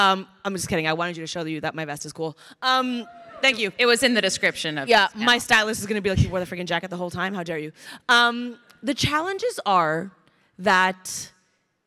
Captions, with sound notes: I'm just kidding. I wanted you to show you that my vest is cool. (crowd cheering) Thank you. - It was in the description of this. - Yeah, my stylist is gonna be like, you wore the freaking jacket the whole time. How dare you. The challenges are that...